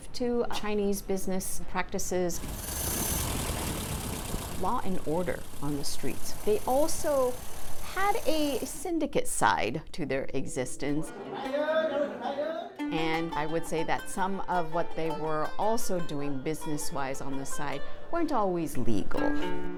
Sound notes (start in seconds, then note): 2.3 motor engine roars; 11.1 men chatting indistinctly